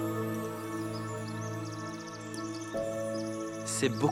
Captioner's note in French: gazouillis d'oiseaux